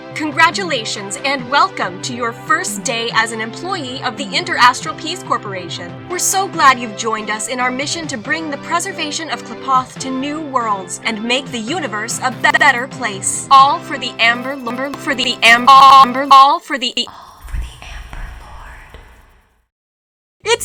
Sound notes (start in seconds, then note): 0.2 upbeat music; 12.4 glitch; 14.2 glitches intensify, buzzing flies; 14.2 glitch